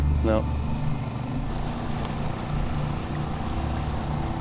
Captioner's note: water sloshing